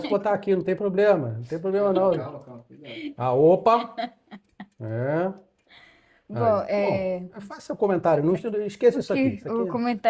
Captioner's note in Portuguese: risadas; risadas